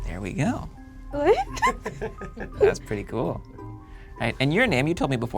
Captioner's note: laughs